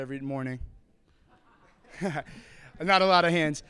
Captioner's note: crowd laughter